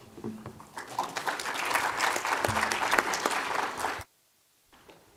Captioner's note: applause